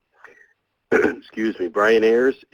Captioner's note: clears throat